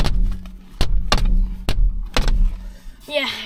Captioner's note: headrests banging window